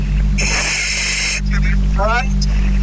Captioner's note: oxygen pipe whirling